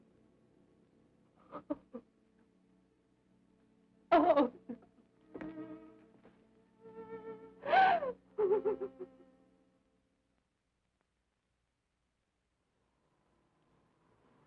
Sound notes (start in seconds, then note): 1.4 sobbing